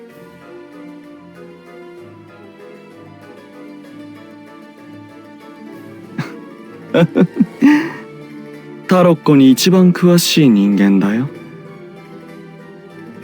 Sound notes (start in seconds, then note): 6.9 laugh